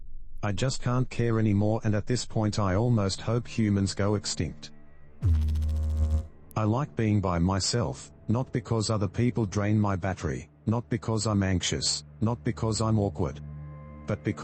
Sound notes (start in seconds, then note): 5.2 electrical noise